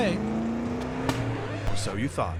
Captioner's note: engine sputtering; record skipping